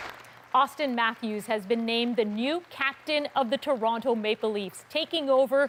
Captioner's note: applause